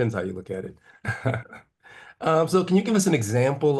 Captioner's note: laugh